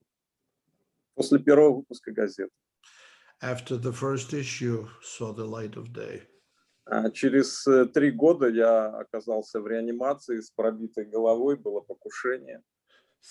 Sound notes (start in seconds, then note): 1.6 speaking Russian language; 7.3 speaking Russian language